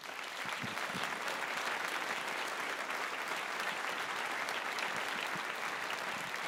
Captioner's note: applause